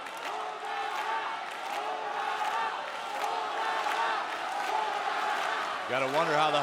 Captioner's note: audience clapping; audience chanting